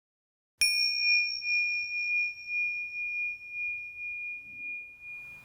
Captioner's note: bell chimes and reverberates